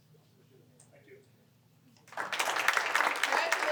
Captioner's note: applause